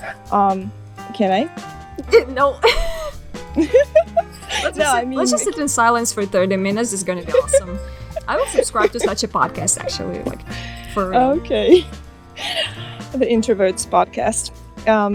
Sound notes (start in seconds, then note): 1.3 laughing